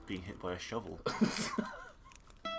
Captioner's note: laughs